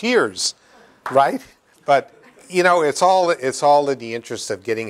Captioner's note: laughter